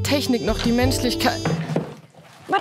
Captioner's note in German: Tür wird geöffnet